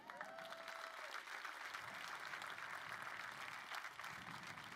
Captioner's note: crowd applauding